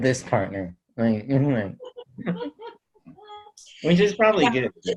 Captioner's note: holds back laughter